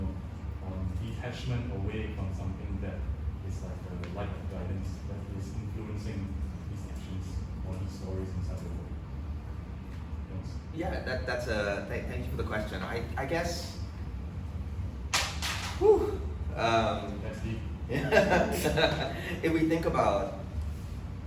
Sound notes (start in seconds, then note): 17.9 laughs